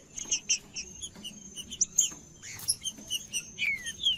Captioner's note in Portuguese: trinca ferro cantando